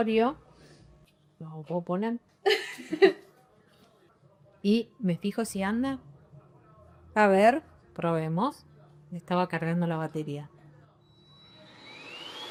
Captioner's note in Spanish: risas